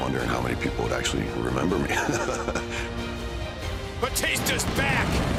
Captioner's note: laughing